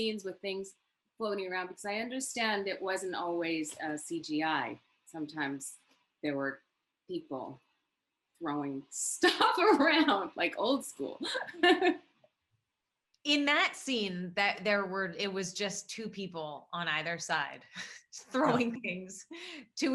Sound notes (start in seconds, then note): 9.8 laughs; 11.2 Sarah laughs